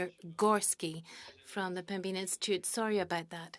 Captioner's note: speaking French